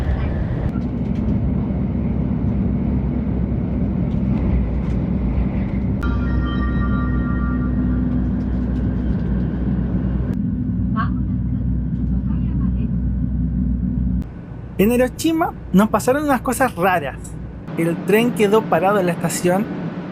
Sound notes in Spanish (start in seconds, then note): 6.0 sonido de anuncio del tren Hello Kitty Shinkansen